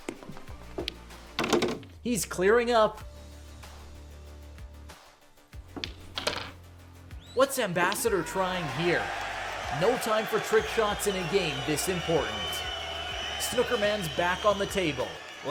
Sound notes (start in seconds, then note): 3.3 tense music; 8.9 audience jeers